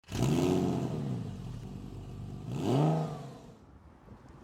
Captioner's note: engine